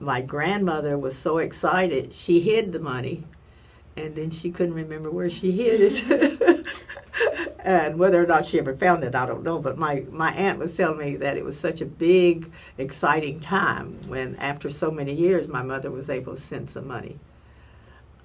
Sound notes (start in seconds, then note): 5.8 laugh